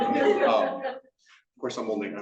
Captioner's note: attendants laughing